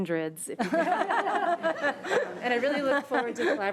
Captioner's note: audience laughing